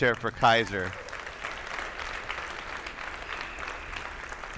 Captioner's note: attendees applauding